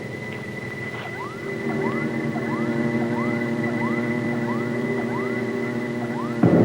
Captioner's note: dramatic music; electronic beeping